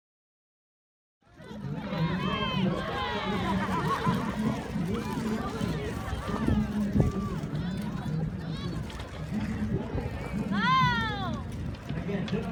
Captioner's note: outside noise of people cheering and laughing